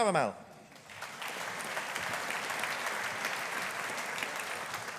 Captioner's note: audience applauding